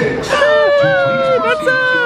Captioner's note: pair cheering